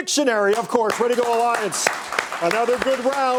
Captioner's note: clapping